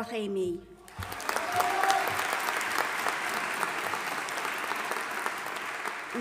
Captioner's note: audience applauding and cheering